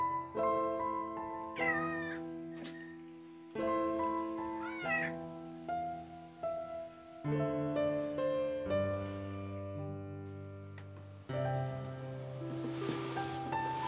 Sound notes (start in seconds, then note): 1.2 cat meowing; 1.2 soft music